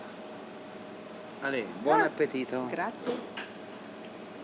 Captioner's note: speaking Italian